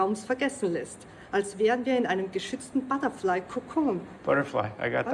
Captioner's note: continues speaking German